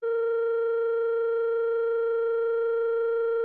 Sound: phone ringing

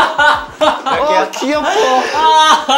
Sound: cracking up by himself

